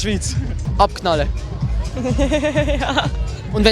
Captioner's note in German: lachen